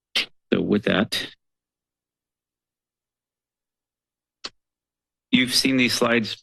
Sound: pause

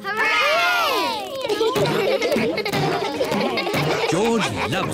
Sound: kids laughing

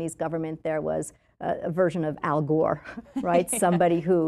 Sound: chuckles

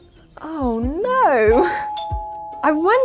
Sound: doorbell ringing

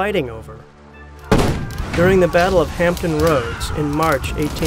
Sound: cannon blasts

